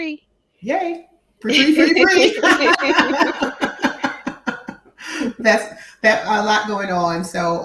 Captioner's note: laughing